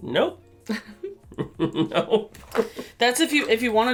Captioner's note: laughter